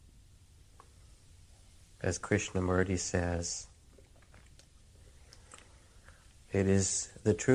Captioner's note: pause; pause